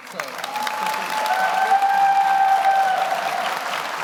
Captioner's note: audience applauds